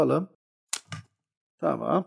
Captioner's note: the sound of the scissors cutting the cuticle